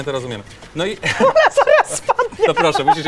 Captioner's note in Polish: śmiech